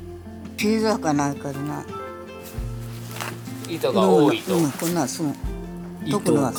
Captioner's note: laughs